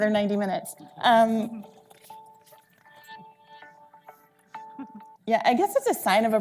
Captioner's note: cell phone alarm ringing